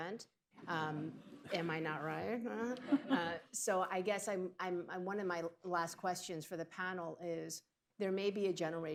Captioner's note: laughter